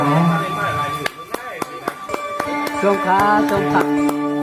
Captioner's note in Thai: ปรบมือ